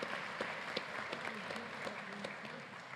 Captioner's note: applause